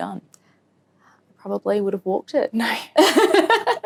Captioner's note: laughs